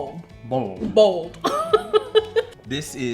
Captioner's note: laughs